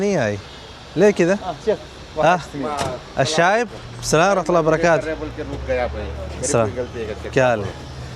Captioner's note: Arabic